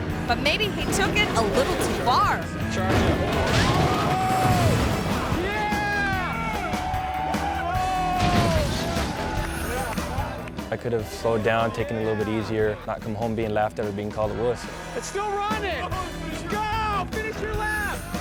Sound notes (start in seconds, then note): 3.6 people screaming; 4.5 car thuds; 6.7 audience cheering